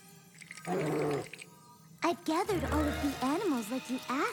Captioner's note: growls